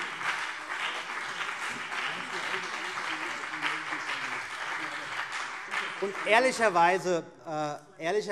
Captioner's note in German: Beifall BÜNDNIS 90/DIE GRÜNEN